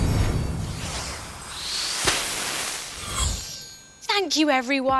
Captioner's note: magical whoosh